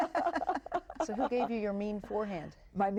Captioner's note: all laugh